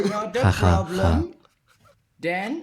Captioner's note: Laugh in Catalan